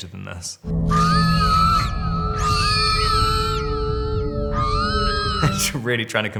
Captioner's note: eerie music; woman screaming